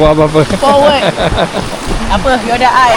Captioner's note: laugh